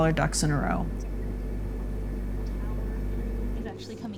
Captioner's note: humming